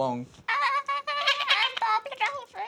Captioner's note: both squeak